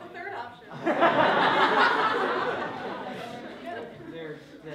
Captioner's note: laughter